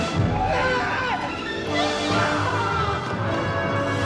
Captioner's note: dramatic music; people yelling